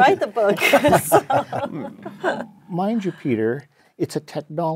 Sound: laugh

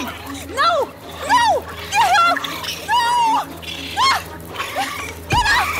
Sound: screams

